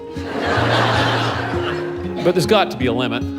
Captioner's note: laughter